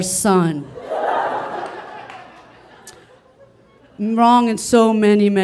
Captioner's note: audience laughing